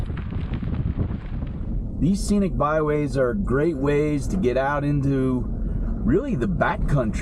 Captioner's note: truck noises